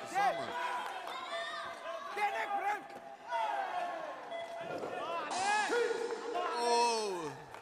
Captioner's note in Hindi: तालियां